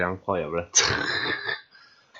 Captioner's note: laugh